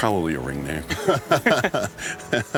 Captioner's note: laughs